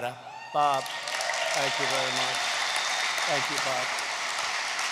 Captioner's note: applause